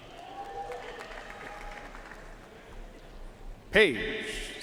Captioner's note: audience cheering and applauding